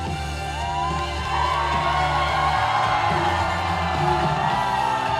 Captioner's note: audience cheering